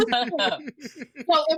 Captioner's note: laughing